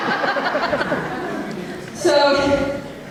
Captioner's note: audience laughter